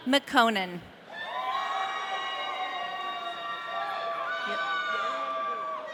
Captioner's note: audience cheering